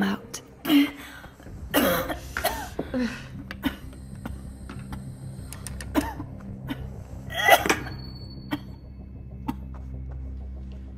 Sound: coughing

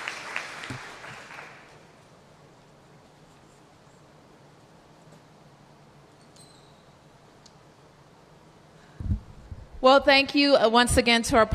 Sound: applause

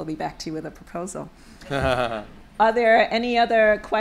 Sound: laughter

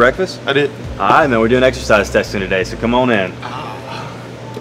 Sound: audible sigh

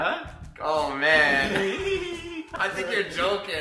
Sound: laughing

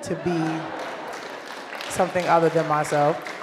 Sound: laughter and applause

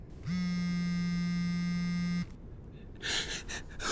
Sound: phone rings

